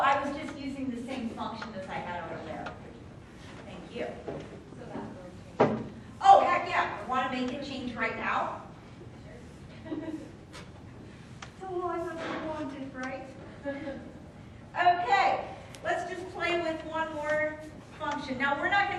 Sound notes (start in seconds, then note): 9.7 female student laughs